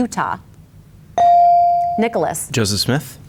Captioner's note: bell dings